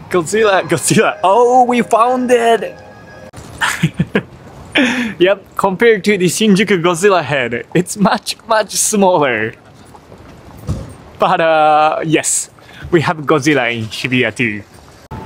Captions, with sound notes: Godzilla... Godzilla... Oh, we found it! [CHUCKLES] Yep, compared to the Shinjuku Godzilla head, it's much, much smaller. But yes, we have Godzilla in Hibiya, too.